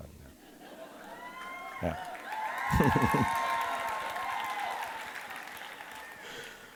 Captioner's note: audience cheering and applauding